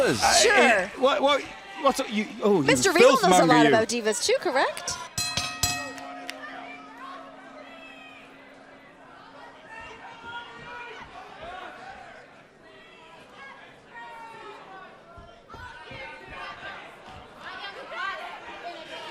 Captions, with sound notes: >> SURE. >> WHAT ARE YOU--OH, YOU FILTH MONGER, YOU. >> MR. REGAL KNOWS A LOT ABOUT DIVAS TOO, CORRECT? >> [BELL RINGING] >> [CROWD CHATTER]